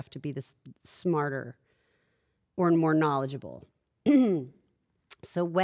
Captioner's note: cough